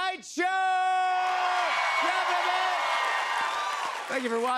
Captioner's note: cheers and applause